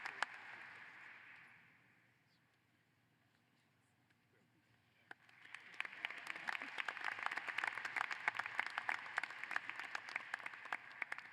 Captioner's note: applause